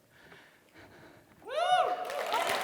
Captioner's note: applause